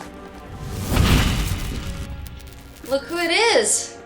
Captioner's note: light whooshing